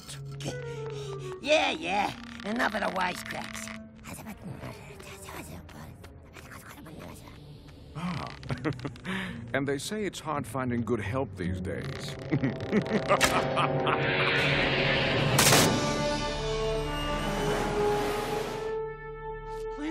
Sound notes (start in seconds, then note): 4.2 whispering; 12.1 evil laughter